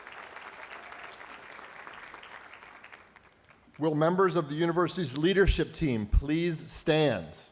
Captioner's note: applause